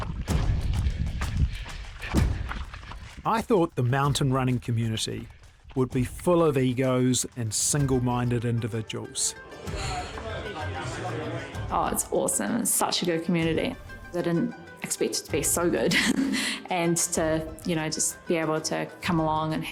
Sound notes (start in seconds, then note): 0.1 upbeat folk music; 9.3 people chattering